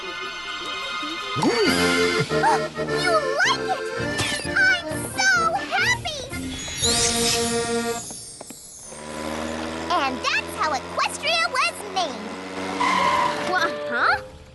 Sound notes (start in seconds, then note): 1.3 all whinny; 1.4 gasps; 12.7 tires screech